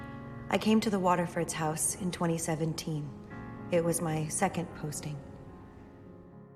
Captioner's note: voiceover